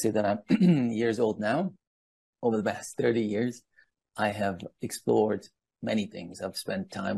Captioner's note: throat clearing